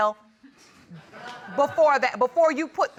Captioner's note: audience laughing